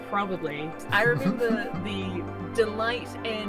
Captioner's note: chuckles